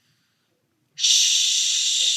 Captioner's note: exhales